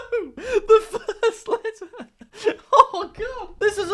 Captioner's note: laughs